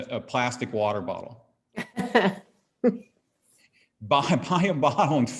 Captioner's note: chuckles